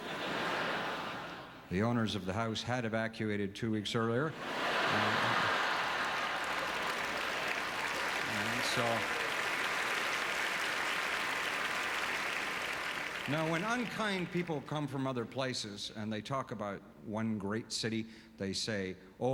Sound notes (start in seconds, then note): 0.0 audience laughter; 4.3 audience laughter; 7.5 applause